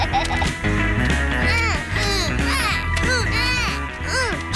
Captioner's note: snorts and laughs; both grunting